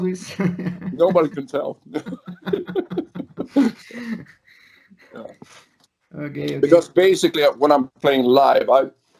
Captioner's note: laughs